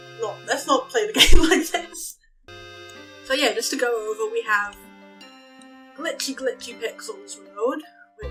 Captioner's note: laughs; cracks up